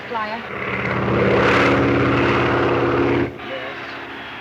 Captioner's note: airplane buzzing